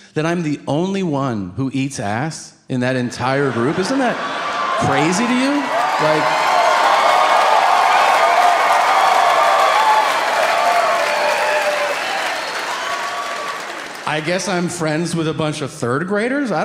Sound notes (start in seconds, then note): 5.8 audience cheering